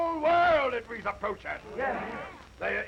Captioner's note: all chattering